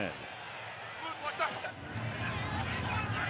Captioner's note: crowd cheering